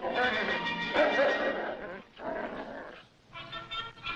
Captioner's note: dog growls; trumpeting music